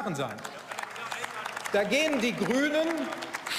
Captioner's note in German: Beifall